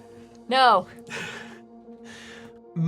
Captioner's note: laughing